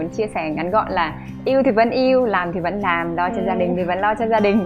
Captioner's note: laugh